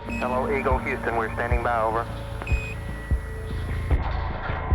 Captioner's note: device beeps